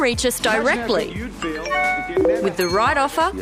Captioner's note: beeps and pings